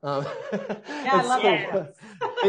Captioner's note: laughing softly